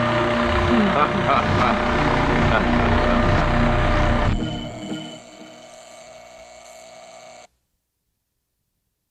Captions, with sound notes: - Ha ha ha ha ha ha ha. (alarm buzzing)